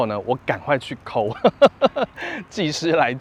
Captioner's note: laughs